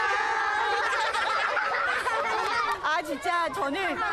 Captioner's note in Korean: 까르르르